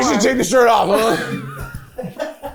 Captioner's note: crew member chuckling; chuckling